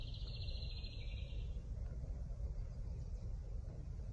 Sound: bird chirping intermittently

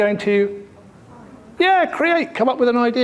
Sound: audience murmuring

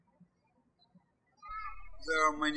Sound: birds chirping

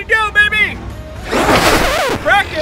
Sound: record scratch

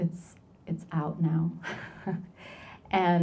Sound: chuckles

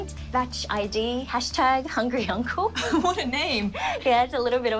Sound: laughs

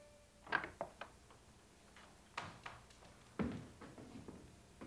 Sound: door clicking

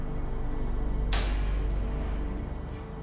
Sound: door opens

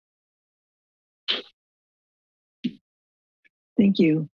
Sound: thud

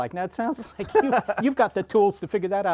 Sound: laughter

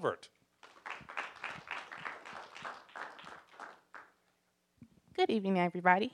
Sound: applause

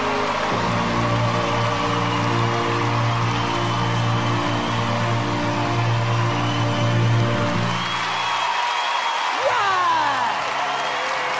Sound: opera singing in Italian; crowd cheering and clapping

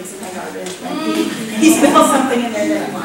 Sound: audience laughter

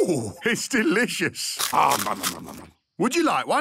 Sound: crunching

